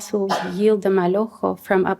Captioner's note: non-english